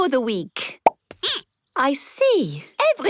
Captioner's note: squeaking